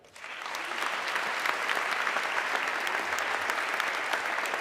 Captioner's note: audience clapping